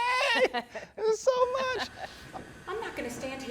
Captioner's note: laughs